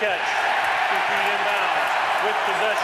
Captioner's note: cheering